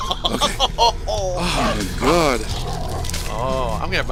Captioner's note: laughing